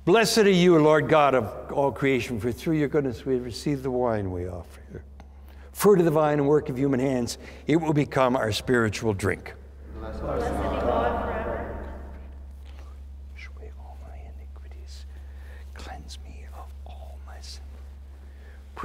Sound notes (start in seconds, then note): 13.8 whispering